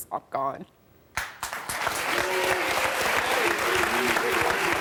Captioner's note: applause